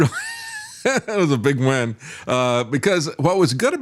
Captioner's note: laughing